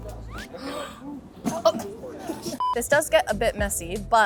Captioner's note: both gasping